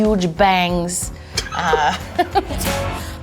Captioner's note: laughing